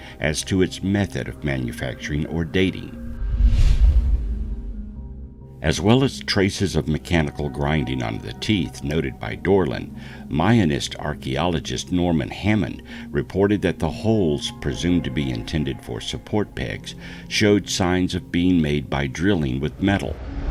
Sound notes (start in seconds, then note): 3.0 air whooshing